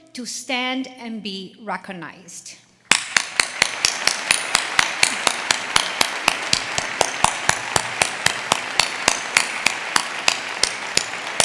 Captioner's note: applause